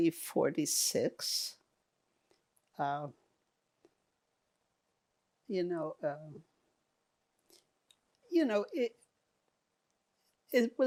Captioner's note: pauses 8 seconds